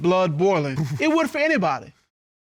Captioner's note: chuckles